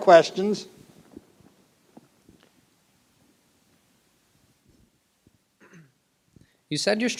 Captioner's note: silence